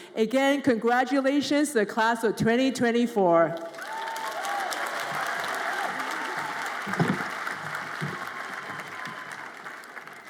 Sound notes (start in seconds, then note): 3.6 audience applauds and cheers